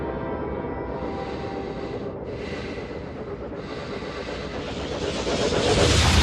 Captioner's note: Norman breathing steadily; portal drones loudly